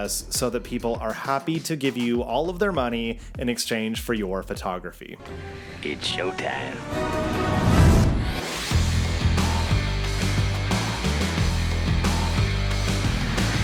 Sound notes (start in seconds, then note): 6.7 adventure music; 6.9 video screen whooshes; 8.5 upbeat music